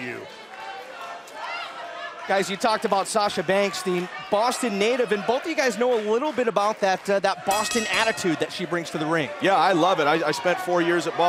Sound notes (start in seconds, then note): 9.3 bell ringing